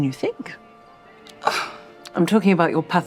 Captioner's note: sighs